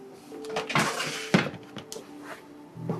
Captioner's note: chair creaking